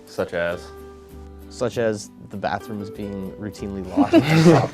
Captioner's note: laughing